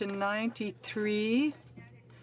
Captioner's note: speaking French